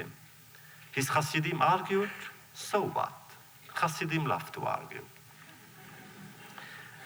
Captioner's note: laughter